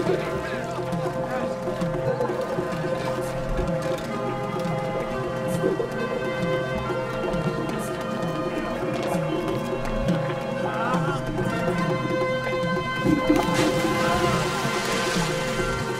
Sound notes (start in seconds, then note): 0.3 dramatic orchestral music; 2.3 soldiers murmuring; 13.0 splash